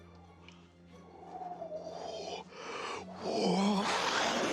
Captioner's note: wind howling